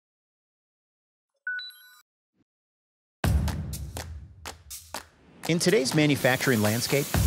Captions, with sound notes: (bright tone beeps) (upbeat music) In today's manufacturing landscape,